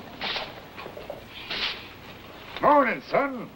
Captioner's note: broom sweeping